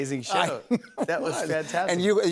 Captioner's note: laughs